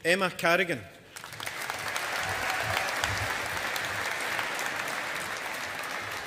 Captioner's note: audience applauding